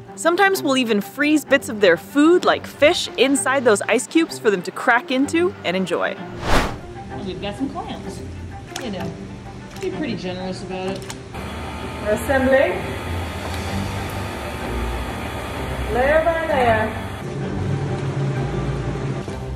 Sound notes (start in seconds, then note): 6.2 whooshing sound effect; 11.4 buzzing noise; 17.0 background humming/buzzing noise